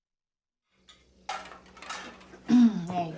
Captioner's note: dishes clanking